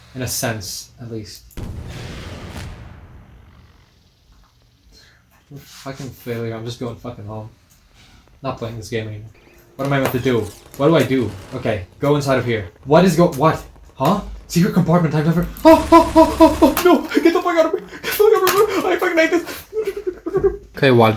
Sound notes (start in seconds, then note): 4.3 the sound of failure